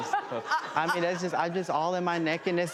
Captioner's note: audience laughter